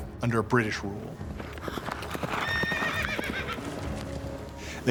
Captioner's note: horses galloping